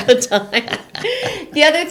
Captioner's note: both laughing